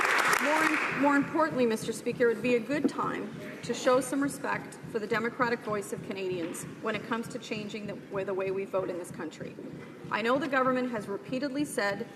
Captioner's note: some Applause